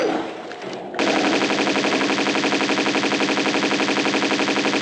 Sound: bratatata

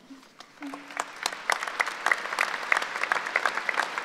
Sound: applause

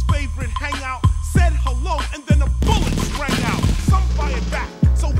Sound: machine guns

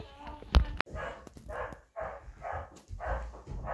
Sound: dog barking

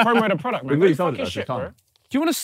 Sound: laughing

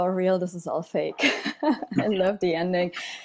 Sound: laughs

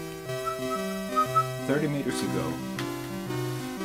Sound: whistling

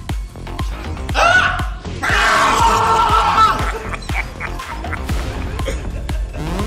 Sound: laugh

